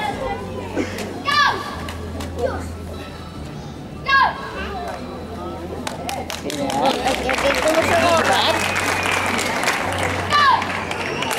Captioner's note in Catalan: Crits de karate